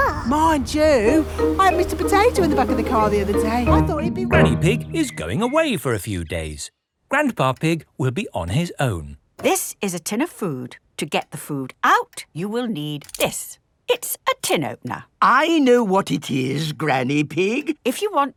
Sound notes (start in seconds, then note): none